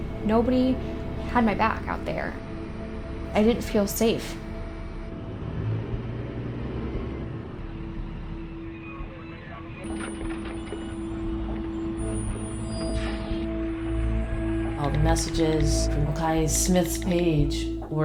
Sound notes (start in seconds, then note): 9.4 brakes squealing